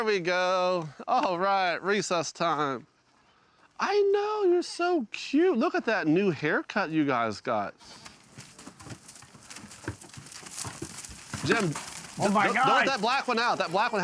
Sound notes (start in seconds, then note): 7.8 hooves pattering